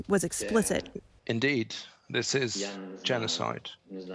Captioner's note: through translator